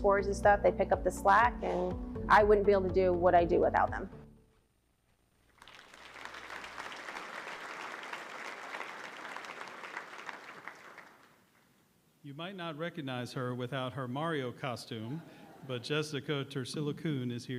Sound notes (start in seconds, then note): 5.5 applause